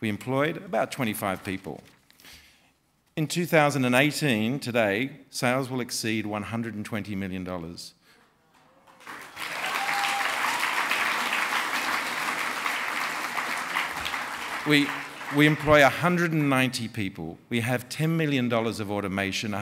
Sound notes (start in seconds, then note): 8.8 applause